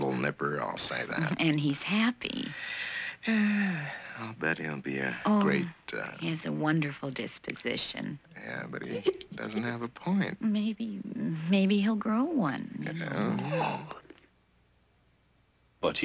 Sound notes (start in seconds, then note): 3.2 dad sighing; 12.9 yawning